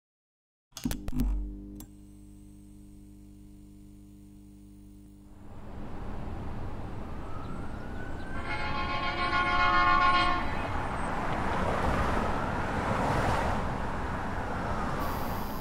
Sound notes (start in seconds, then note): 7.8 sirens; 8.2 honking